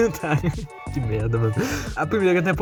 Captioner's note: inhale